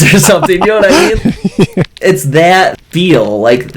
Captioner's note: laughs